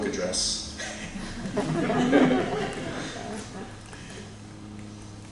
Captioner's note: laughter